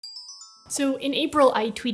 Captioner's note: ring tone chime